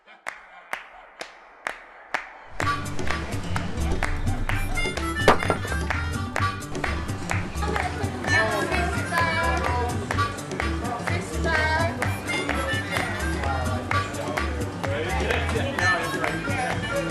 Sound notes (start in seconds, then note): 8.9 restaurant chatter